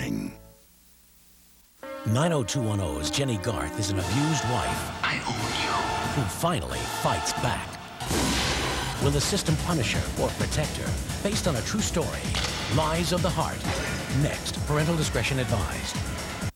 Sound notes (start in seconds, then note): 8.0 gunshot